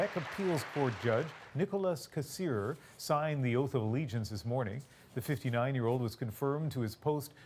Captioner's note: applause